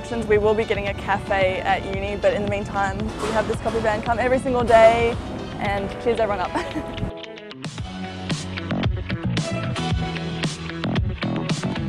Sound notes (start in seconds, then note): 6.4 chuckles; 7.1 funky electronic music